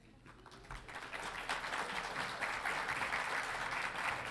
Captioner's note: audience applauding